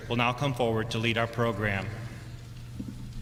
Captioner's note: none